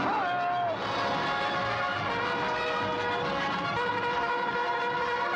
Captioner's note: bugle call; hooves pounding; bugle call